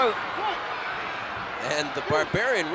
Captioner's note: applause